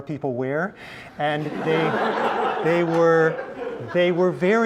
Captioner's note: laugh